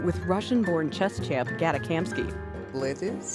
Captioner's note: with Russian accent